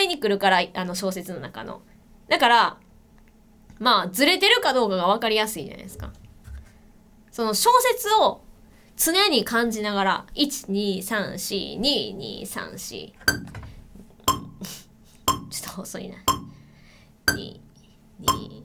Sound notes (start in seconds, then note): 16.2 turning on a metronome